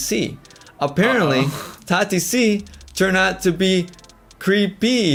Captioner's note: laughs